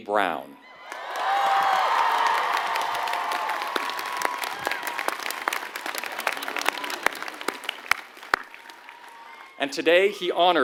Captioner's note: applause